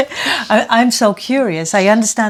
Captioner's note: laughing